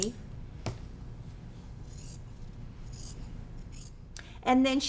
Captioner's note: scissors trimming